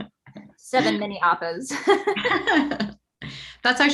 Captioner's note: laughs